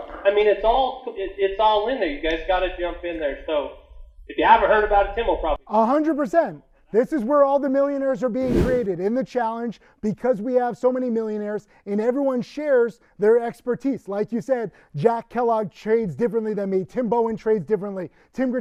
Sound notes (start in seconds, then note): 6.2 speaking faintly; 8.4 wind whooshing